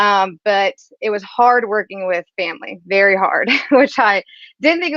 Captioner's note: laughs